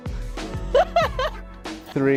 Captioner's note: laughs